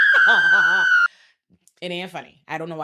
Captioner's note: laughing